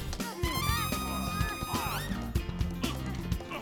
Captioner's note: grunting; grunting